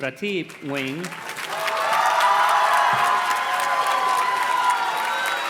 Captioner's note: audience cheers and claps